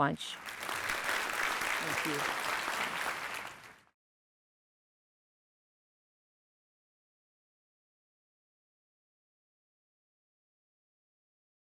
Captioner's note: applause